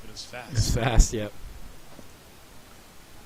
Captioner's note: chuckling